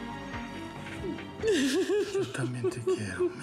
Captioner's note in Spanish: sollozos